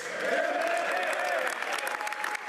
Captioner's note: speaking French